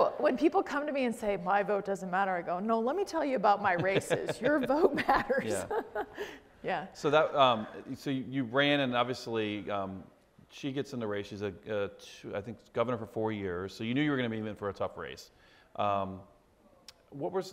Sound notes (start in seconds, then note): 3.7 laughs